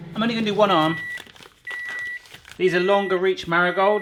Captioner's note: microwave beeping